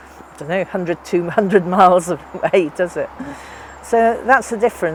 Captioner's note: laughs